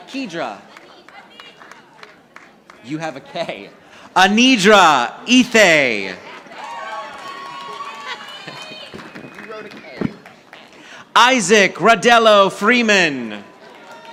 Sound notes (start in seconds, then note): 0.0 audience applauding; 6.3 audience applauding; 8.2 chuckles; 13.4 audience applauding